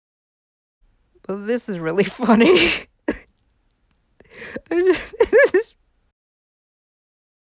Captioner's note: bursts out laughing